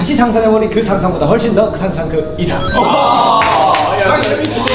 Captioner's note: everyone excited